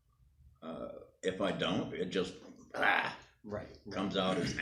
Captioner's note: exclaims